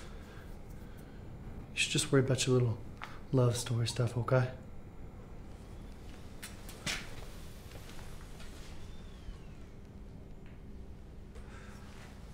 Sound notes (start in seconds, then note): none